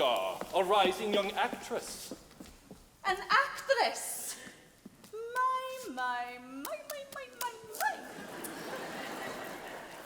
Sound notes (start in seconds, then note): 1.8 footsteps clacking; 8.0 audience laughing